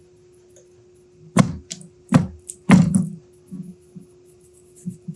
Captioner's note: box thudding